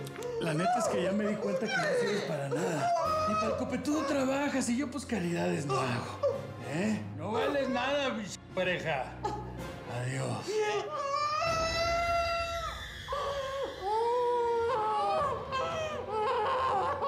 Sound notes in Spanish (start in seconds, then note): 0.0 sollozos; 11.1 gritos; 13.5 sollozos